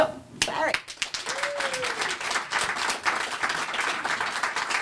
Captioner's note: applause